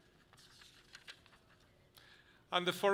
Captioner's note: paper rustles softly